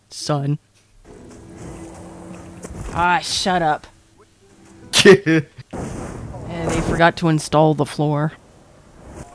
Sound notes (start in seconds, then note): 4.9 laughs